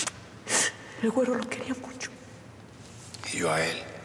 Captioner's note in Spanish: Sollozos